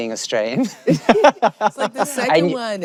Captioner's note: chuckles